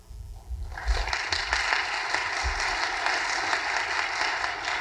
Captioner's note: audience applauding